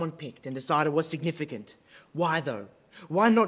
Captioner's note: none